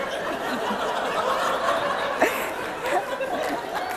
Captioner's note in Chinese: 笑聲